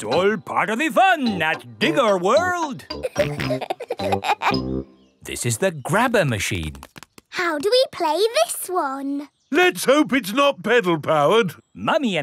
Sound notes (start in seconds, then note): 3.0 peppa and george laughing